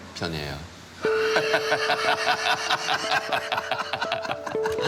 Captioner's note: both laughing